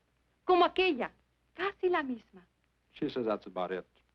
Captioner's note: speaking in foreign language